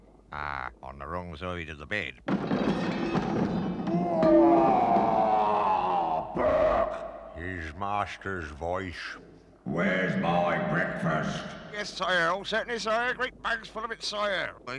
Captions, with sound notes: Ah, on the wrong side of the bed. *Crash* *Roars* Berk! His Master's voice. Where's my Breakfast!? Yes, Sire, oh, certainly, Sire! Great bags full of it, Sire!